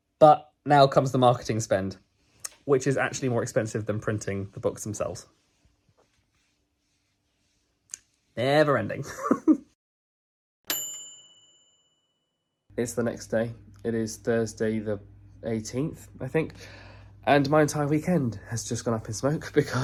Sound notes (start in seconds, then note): 9.9 laughs; 10.7 bright bell dinging